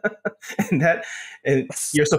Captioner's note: laugh